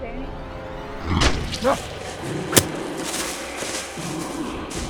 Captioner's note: Bigfoot growling; Danny grunts; Bigfoot breathing heavily